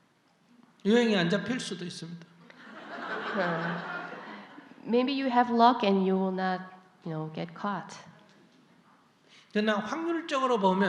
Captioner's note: audience Laughter